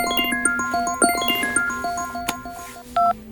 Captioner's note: mobile phone ring tone